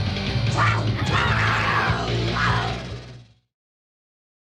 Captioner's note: screams